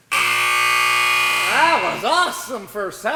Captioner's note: buzzer